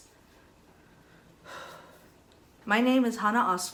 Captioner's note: Hana sighs